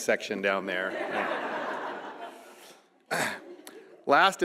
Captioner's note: audience laughing